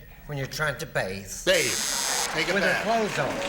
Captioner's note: buzzer